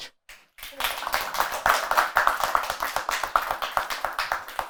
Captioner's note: applause